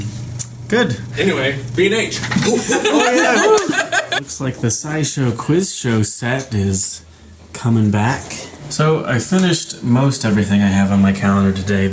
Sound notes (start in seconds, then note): 2.4 laughs